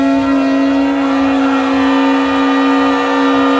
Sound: crowd screams; shofar sounding

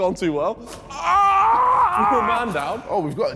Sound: crying in pain

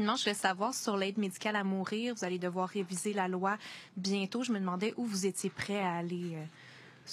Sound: speaking French

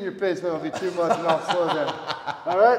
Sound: laugh

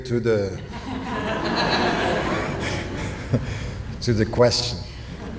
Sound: audience laughing

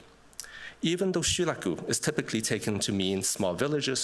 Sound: japanese

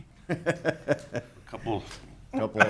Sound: laughing

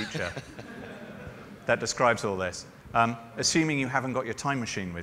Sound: laughter

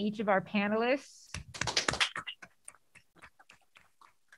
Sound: applause

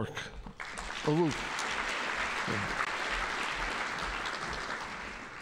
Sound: audience applauding

